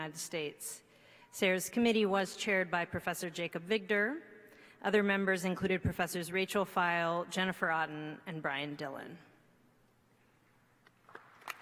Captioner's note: applause